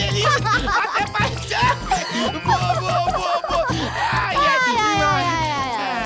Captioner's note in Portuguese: risos